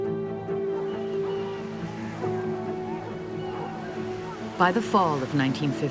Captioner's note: gulls squawking, waves crashing